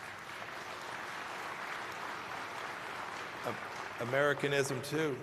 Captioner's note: applause